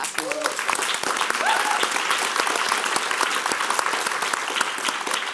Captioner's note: audience applauding